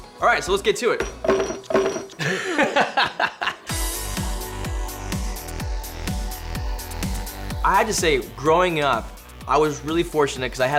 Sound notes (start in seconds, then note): 1.0 glass clanking; 2.1 laughs nervously; 3.4 energetic music